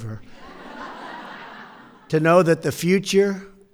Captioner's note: laughter